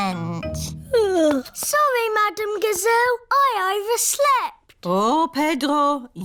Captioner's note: yawns